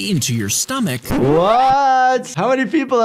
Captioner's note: vinyl record scratching